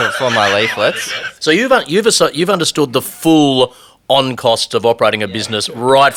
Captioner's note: laughs